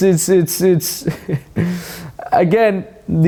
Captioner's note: laughs